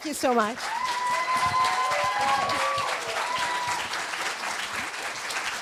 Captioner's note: applause